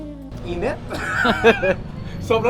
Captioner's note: laughs